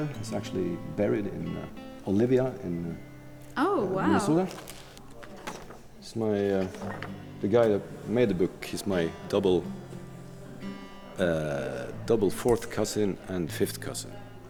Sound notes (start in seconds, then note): 4.4 paper rustles